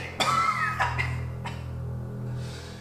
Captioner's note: coughing